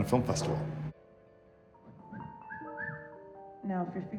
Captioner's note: whistling